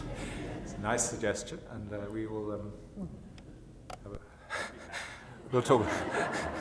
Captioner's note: laughs; laughter